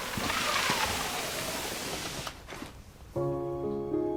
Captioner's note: sliding basket